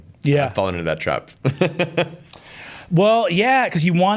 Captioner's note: chuckles